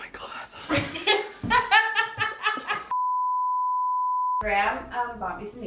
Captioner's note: continuous beep; laughs